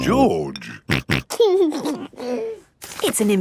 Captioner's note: snorting and giggling